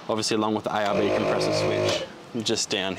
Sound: engine revs

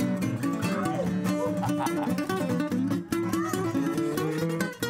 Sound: audience cheers "Whoo", "Yip", "Owww"

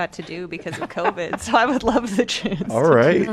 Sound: laughter

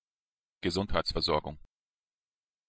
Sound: fast Pronunciation

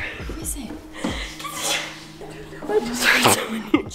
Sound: wheezes

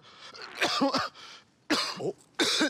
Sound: coughing

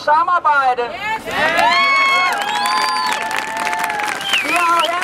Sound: applause

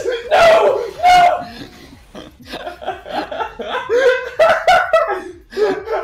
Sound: laughter

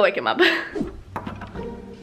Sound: chuckles; air swoosh; sneaky music

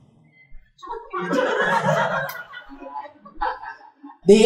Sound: laughter

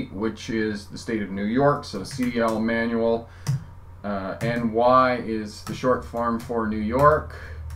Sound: typing

